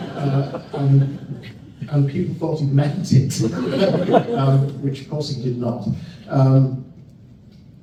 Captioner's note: laughter